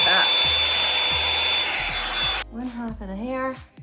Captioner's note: dryer whirring